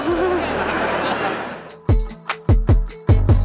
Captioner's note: crowd laughs; happy pop music